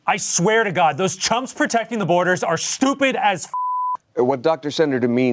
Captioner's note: beep